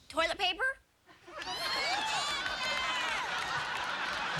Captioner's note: laughter